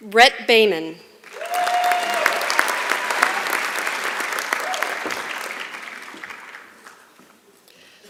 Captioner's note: applause